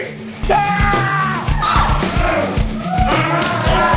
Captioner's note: yelling